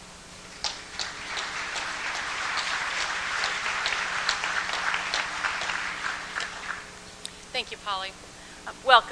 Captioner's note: applause